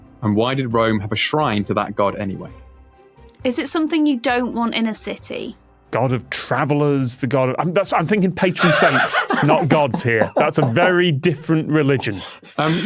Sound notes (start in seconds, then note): 8.6 wheezes